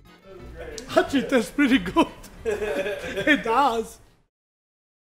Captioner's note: laughs